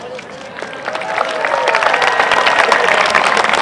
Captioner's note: applause